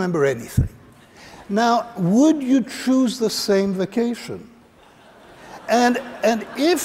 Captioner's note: laughter